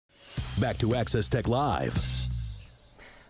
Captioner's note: voiceover